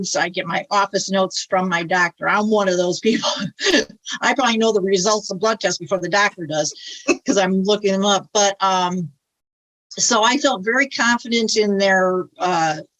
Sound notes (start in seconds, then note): 3.7 laughs; 6.7 laughs